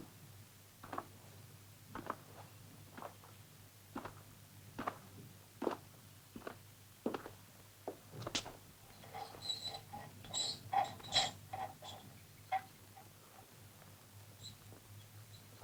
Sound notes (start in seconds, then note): 8.9 metal squeaking